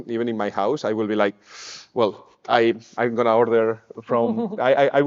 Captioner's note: sighs